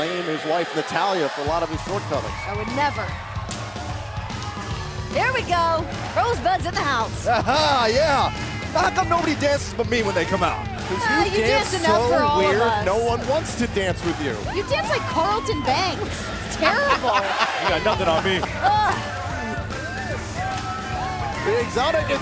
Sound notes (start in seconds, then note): 18.6 laughing